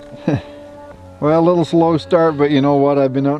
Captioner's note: laughs